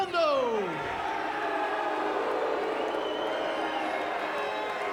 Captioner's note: fans cheering and booing